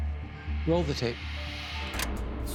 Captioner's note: button clicks